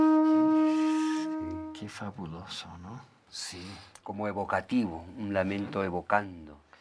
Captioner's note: conversing in Spanish